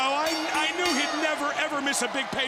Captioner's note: bell ringing